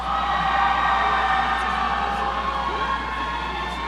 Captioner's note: audience cheering